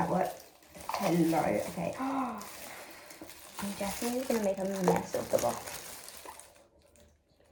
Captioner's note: gasp